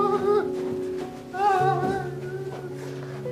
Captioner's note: continues to wail